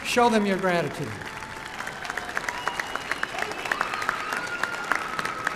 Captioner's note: applause and cheering